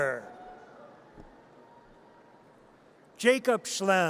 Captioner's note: audience cheers